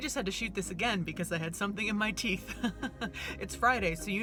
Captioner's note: chuckles